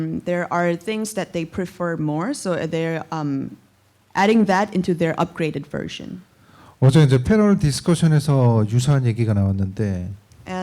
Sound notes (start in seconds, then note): 6.8 speaking korean